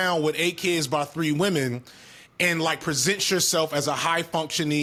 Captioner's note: none